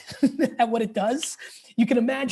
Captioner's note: laughing